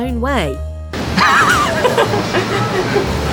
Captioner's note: laugh